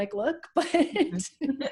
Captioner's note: laughs